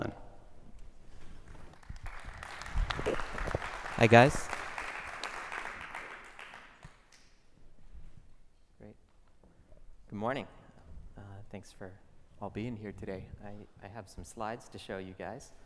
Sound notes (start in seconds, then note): 1.5 applause